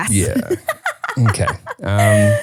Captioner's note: laughing